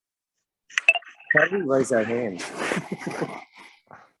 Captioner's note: laughs